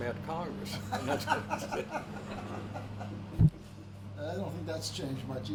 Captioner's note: both laughing